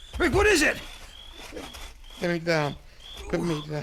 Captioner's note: groans